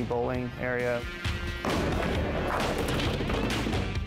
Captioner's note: ball rolling, pins tumble